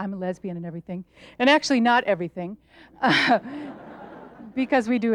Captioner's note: laughs; audience laughs